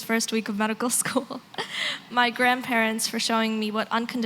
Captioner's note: laughs